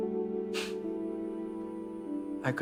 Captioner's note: breathes out